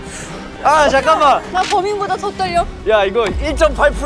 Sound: heart thumping

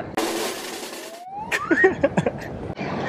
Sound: drumroll; slide whistle sound; chuckle

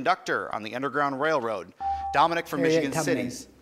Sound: buzzer

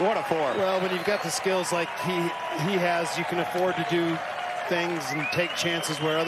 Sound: applause

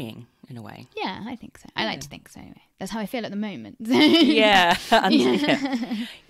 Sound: laughs

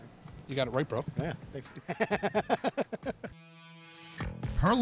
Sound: cackles

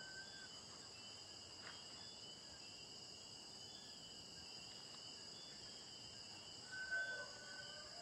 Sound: crickets and insects chirping and buzzing

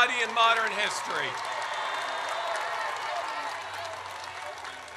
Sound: audience cheers

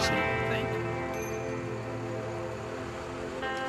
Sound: bell dings

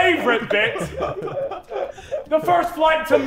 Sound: Sidemen laughing

